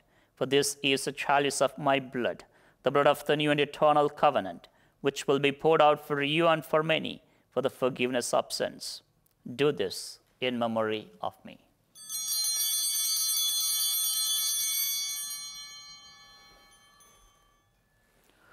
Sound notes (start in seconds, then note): 11.9 chimes ringing